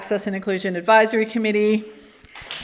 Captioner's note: applause